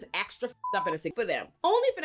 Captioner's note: beep